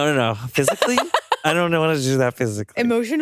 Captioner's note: chuckles